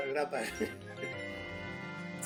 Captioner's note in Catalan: Riu